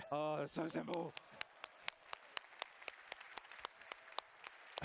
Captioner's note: applause